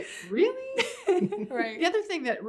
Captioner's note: laughs